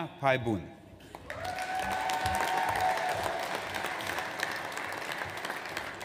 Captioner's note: audience applauds